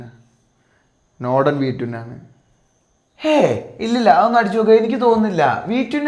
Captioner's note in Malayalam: ചീറ്റുന്നു